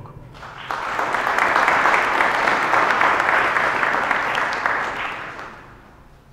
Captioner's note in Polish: oklaski